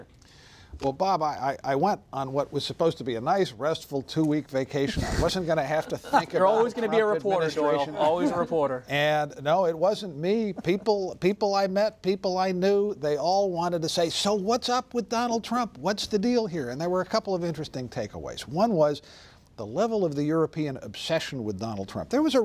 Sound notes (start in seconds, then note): 4.8 laughter